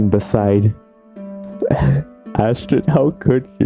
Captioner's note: nervously chuckles